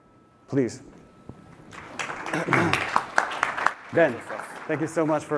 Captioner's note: applause